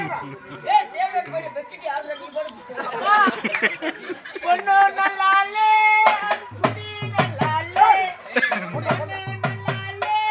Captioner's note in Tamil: சிரிப்பு